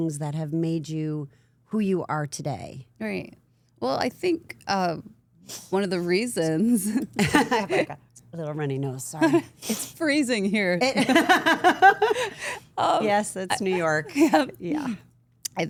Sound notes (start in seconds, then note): 5.5 Stephanie sniffing; 7.1 laughs; 9.8 Stephanie sniffing; 11.1 Stephanie laughing